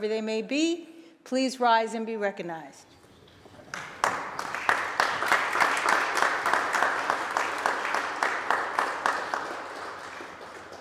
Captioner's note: applause